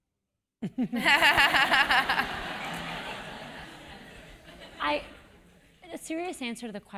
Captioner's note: laugh